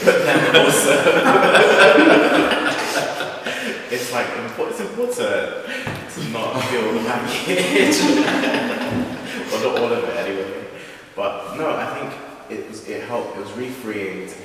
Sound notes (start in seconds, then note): 8.4 laughs